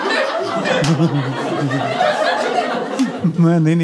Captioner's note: cute cute laugh; more cute cute laugh